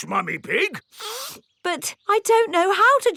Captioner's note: sniffs